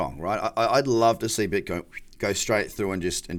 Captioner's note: whistling